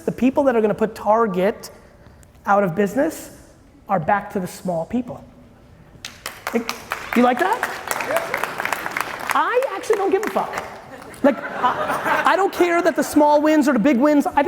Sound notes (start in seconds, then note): 6.0 audience applauding; 10.0 audience laughing